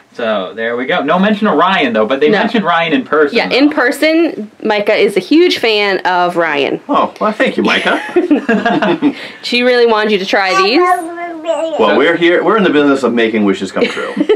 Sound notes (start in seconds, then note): 7.6 laughing